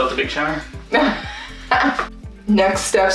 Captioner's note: laughs